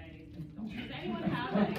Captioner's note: laughter